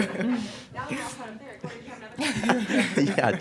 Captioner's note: laughing; faintly speaking; laughing